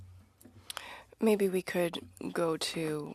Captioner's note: speaking French